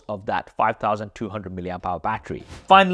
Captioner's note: air whooshes; upbeat music